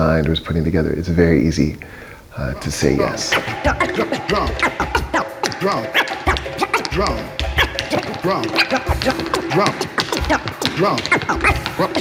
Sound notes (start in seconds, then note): 4.8 record scratching; 9.9 tapping